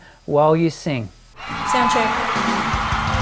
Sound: crowd cheering

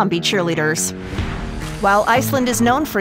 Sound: air whooshing; upbeat jazz music

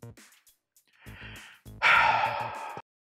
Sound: sigh

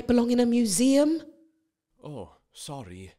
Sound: ♩music stops ♩

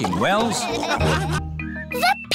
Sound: all laughing

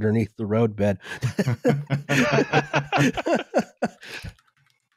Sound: laughter

